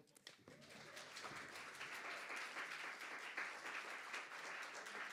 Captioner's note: audience applauding